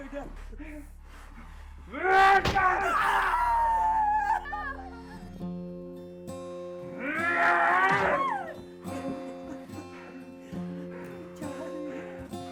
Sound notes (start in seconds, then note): 1.9 Skull-Faced Assailant shouts; 2.2 strike thudding; 2.6 Sue wailing; 4.5 Tina whimpers; 6.6 pleaseant folk music swells; 6.8 Skull-Faced Assailant grunts; 7.6 strike thudding; 9.6 sobs